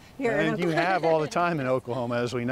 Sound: chuckling

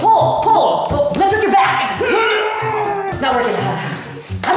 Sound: grunts; sighs

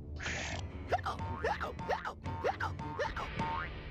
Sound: hiccupping

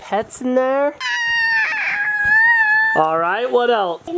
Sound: screams

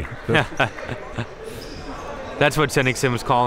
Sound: laughing

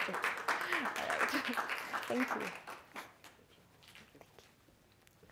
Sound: audience clapping

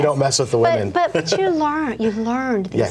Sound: laughs

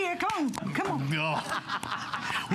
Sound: laughter

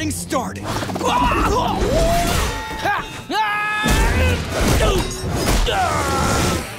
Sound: grunting

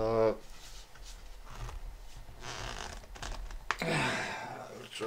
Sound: crunching sound of plastic bottle

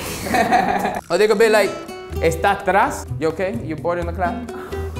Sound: speaks in Spanish

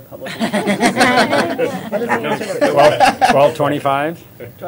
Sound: laughter

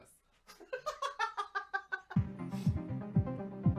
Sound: laughter

